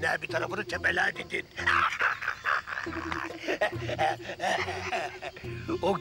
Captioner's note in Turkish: Gülme sesi